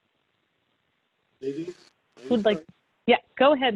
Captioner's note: faintly speaking